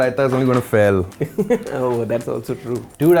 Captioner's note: laughs